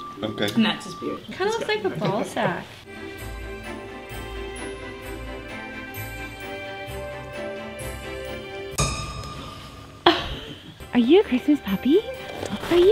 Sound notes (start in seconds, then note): 3.5 christmas music; 8.7 dramatic beat; 10.0 laughter